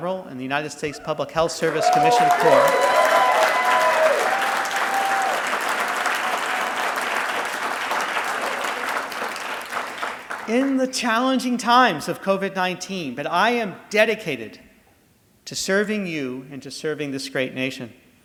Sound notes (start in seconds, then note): 4.0 audience applauding